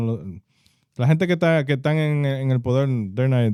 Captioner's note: speaking In Foreign Language